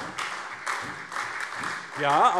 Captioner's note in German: Beifall SPD